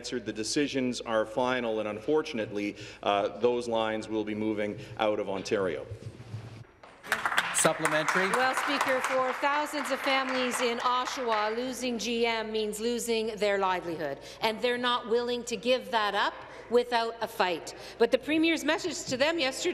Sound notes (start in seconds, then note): 9.3 applause